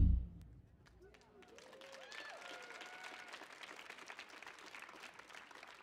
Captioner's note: audience cheers and applauds